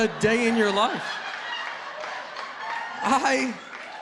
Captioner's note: laughter